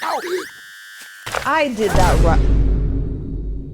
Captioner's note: boom